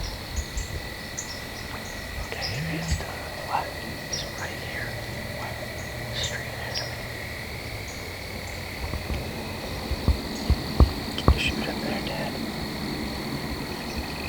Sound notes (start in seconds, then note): 7.3 insects; 14.1 frogs / insects